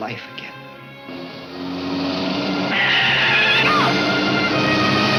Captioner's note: car tires screech